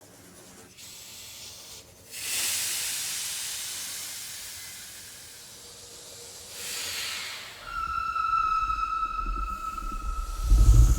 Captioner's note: hissing noises